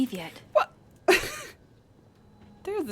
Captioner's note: laughs